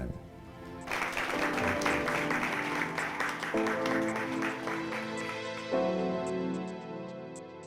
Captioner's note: clapping